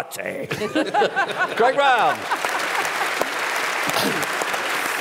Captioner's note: applause